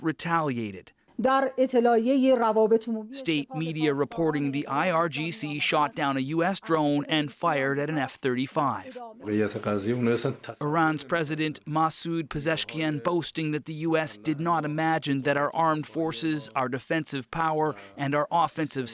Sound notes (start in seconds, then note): 5.5 speaking alternate language; 10.9 speaking alternate language